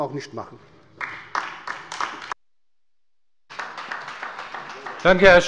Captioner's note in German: Beifall bei der LINKEN